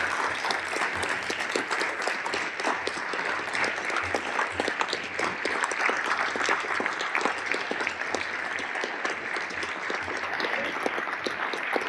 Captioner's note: applause